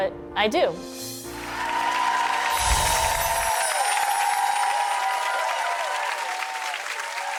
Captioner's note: audience cheering; bells chiming